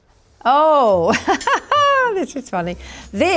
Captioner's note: laughs